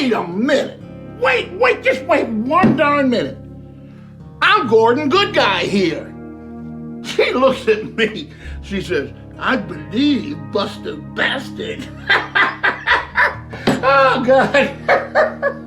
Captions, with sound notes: Wait, wait just wait one darn minute! "I'm Gordon good guy here!" She looks at me. She says "I believe, Buster busted!" (laughs) Oh, God!